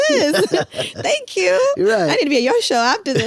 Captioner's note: laughs